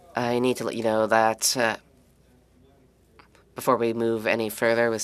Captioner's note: speaking French